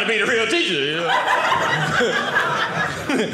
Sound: audience laughing

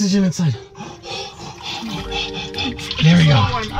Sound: breathes heavy

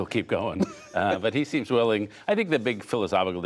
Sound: laughter

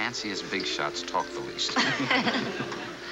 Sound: laughing

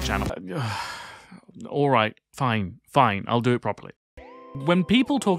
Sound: sighs

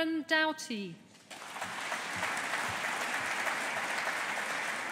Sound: audience applauding

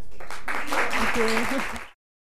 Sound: applause

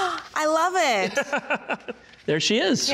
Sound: laughing

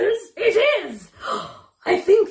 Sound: gasps

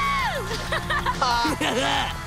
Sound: laughing; gasping

